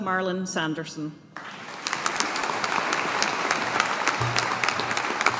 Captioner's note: audience applauding